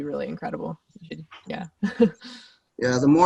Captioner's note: laughs